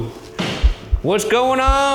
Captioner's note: door thuds